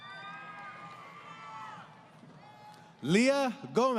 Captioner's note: crowd Cheering